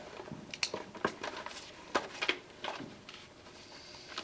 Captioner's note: paper rustling